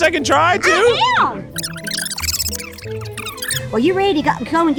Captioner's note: video tape whirring